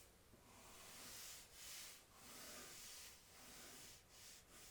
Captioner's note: pencil scratching